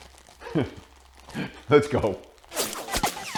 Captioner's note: laughing